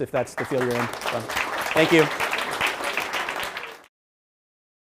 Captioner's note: applause